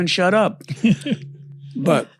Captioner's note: laughs